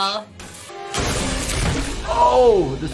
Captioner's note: wood splintering